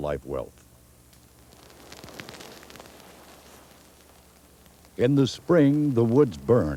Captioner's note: sound of fire crackling